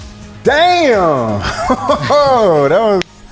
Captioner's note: laughing